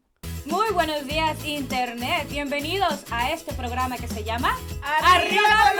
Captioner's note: speaking foreign language